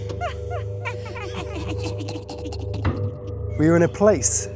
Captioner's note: creepy laughter